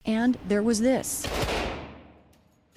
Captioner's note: gunshots